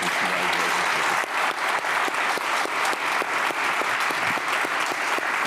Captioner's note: everyone applauding